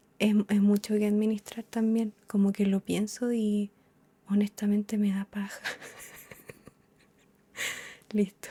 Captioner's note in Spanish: risas